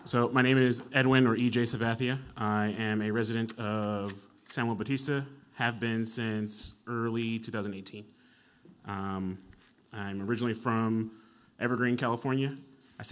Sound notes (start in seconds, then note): none